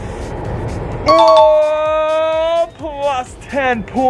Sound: chimes

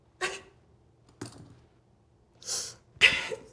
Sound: Alex crying

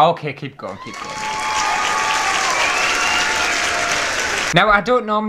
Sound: applause & Cheering

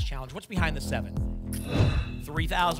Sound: whoosh

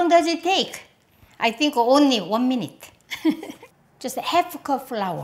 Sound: laughs

